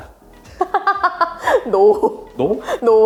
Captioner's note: laughs